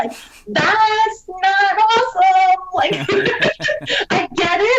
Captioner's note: laughs